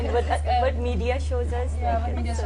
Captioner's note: laughter